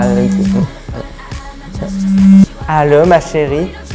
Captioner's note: phone vibration